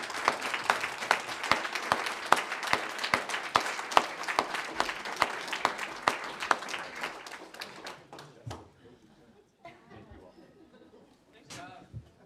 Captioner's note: applause